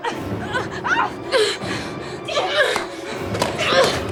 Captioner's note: grunting